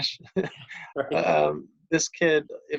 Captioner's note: laughing